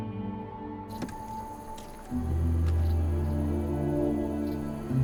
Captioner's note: insects chirping